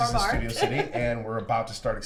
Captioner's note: laughs